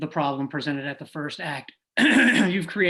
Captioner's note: clears throat